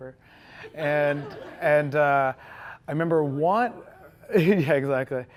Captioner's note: audience chuckling